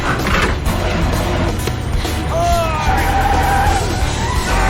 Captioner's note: tires screeching